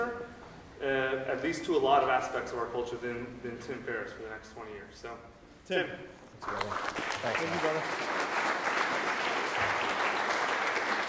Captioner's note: clapping